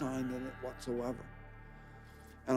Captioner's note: none